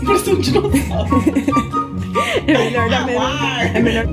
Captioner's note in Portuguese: risos